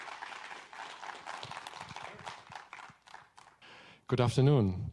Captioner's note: audience applauding